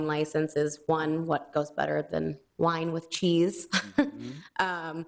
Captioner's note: chuckles